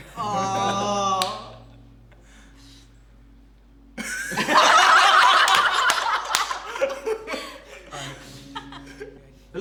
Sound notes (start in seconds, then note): 4.0 everyone laughs